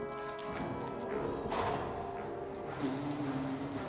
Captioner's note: blows raspberry